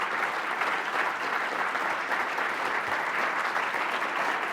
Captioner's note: applause